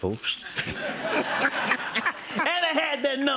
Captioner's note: laughter